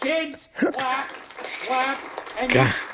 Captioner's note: audience clapping loudly